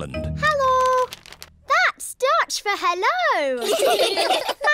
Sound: laughter

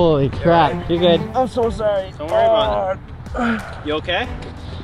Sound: grunts

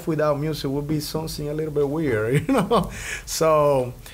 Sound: laughs

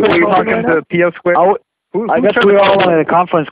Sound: laughing

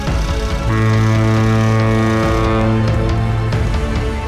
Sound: ship horn blares

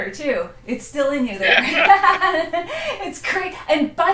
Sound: laughs

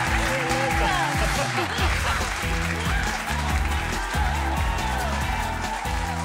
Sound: audience applauding; upbeat music

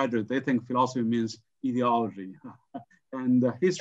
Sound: laughs

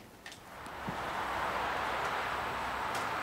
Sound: traffic noise

